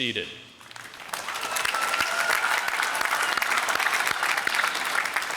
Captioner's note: applause